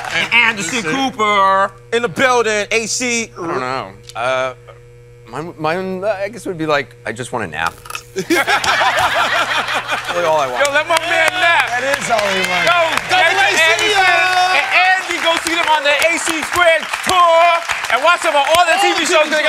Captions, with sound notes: And Anderson Cooper in the building, AC. I don't know. Mine, I guess, would be like I just want to nap. [LAUGHTER] That's all I want. Yo, let my man nap. That is all he wants. Yo, thanks to Anderson and Andy. Go see them on the "AC Switch" tour. And watch them on all the TV shows.